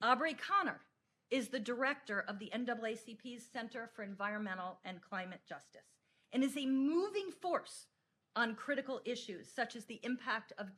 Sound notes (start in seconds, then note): none